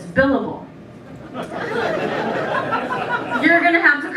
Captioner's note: laughter